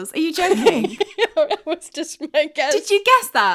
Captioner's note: laughing